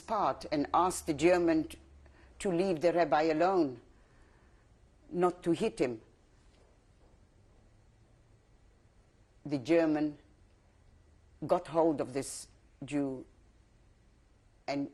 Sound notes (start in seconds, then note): 5.7 pauses for 3 seconds